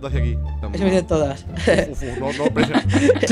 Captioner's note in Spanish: risa